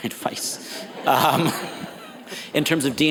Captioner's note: audience laughs